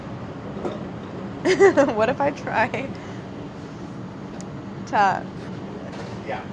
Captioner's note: laughs